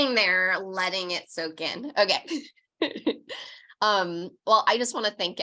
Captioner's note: laughs